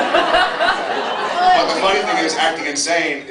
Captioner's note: laughs